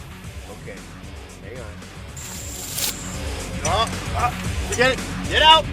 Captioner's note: whipping of vines